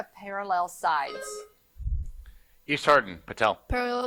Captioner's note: buzzer buzzing